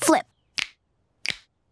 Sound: snapping

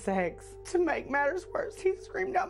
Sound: weeping

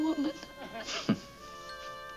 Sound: Don chuckles

